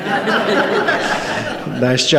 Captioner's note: participants clap